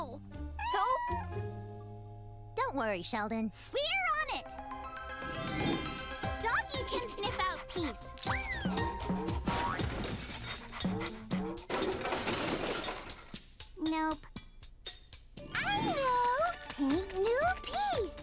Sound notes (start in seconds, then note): 1.0 meowing; 9.3 crashing; 10.4 panting; 11.6 crashing